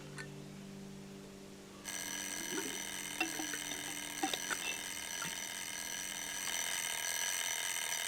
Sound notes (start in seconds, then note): 1.8 alarm ringing